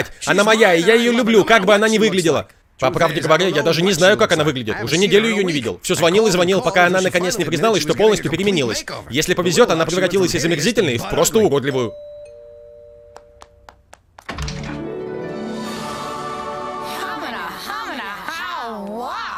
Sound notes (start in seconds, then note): 11.7 doorbell rings